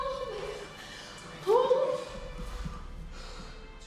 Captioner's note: sighing